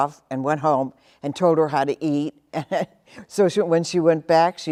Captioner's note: chuckles